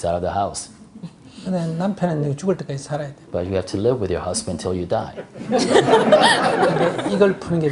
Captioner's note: audience/Questioner Laughter